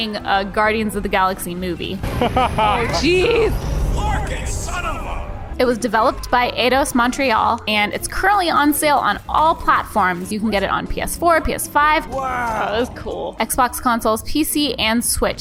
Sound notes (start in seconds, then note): 2.0 laughs